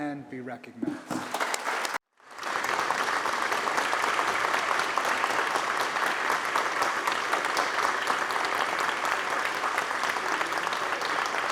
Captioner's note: applause